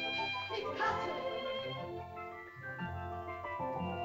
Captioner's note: girl speaks in caveman language; whimsical music